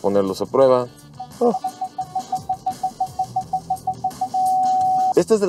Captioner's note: alarm beeping